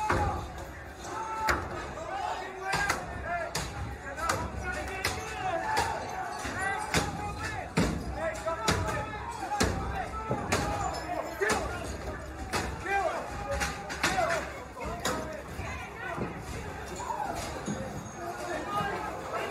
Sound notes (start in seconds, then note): 6.0 yelling; 6.3 banging; 17.1 banging